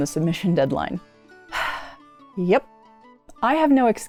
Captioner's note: heavy sigh